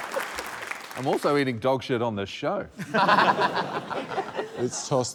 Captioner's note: laughter